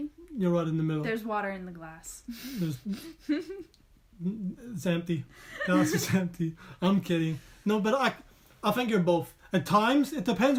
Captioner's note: laugh